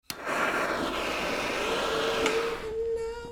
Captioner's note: flame roaring